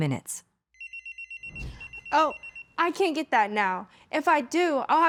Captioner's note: cell phone rings